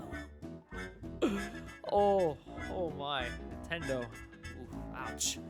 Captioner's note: inhale